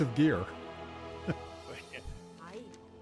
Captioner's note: laughs